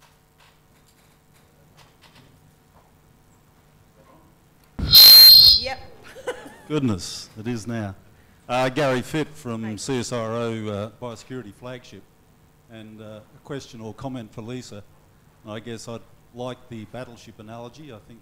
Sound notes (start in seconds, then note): 4.8 loud feedback